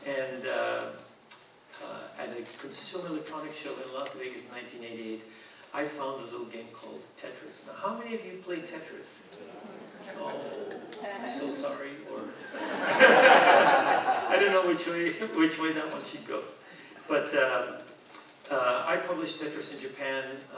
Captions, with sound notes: And at a consumer electronic show in Las Vegas in 1988, I found a little game called Tetris. Now, how many of you played Tetris? (audience muttering) Oh, I'm so sorry, or... (audience laughing) I don't know which way that one should go. But I published Tetris in Japan